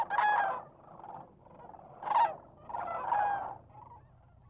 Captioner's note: birds squawking